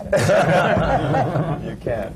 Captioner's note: laughter